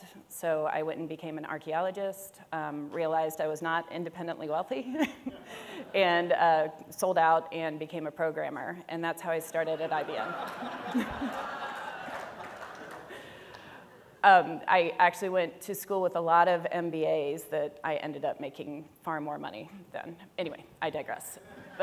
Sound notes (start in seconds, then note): 9.6 audience laughs